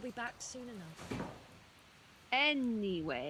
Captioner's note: window rattling shut